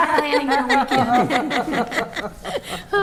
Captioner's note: attendees laughing